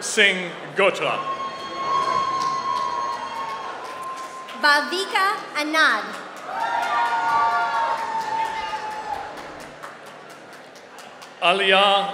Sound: applause

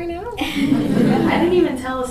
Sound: audience laughs

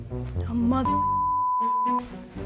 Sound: computer bleeps

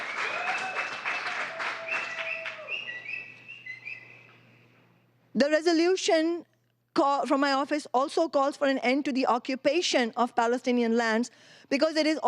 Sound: cheering; applause

